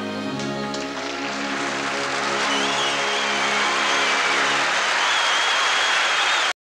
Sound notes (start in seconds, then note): 0.6 audience applauding and cheering